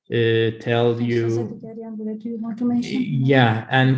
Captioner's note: speaks foreign language